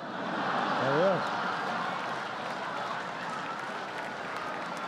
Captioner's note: laughter